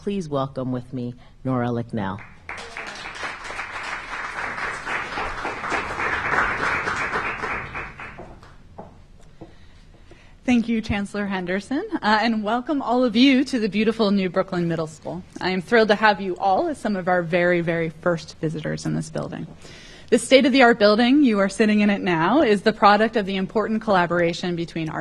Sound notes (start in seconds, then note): 6.1 applause